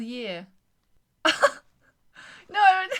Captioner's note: laughs